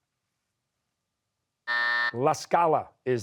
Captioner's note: buzzer